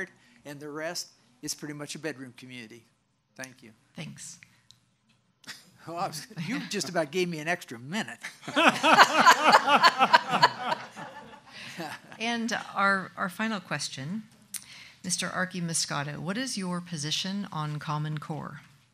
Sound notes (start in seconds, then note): 8.4 laughs loudly